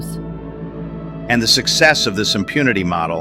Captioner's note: excited